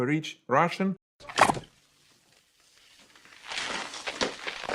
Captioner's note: boot glugging; stones rattling